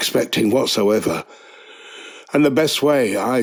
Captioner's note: inhale